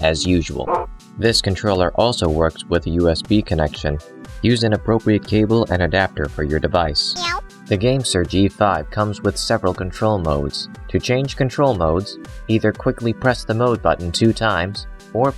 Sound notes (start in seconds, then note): 0.7 woof; 7.2 meow